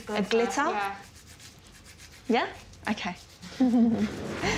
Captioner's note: chuckling